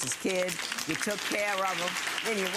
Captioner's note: audience applauding